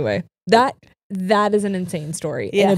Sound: none

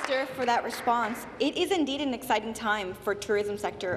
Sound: applause

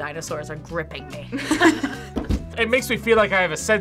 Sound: both laugh

